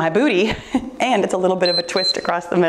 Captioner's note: timer beeps